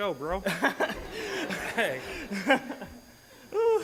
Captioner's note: laughing